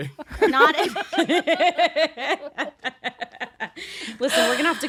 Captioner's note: laughs